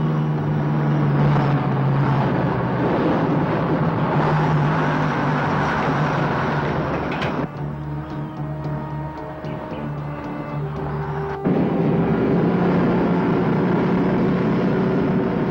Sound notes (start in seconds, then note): 1.2 truck engine whirring and struggling; 8.9 suspenseful music; 12.5 truck roaring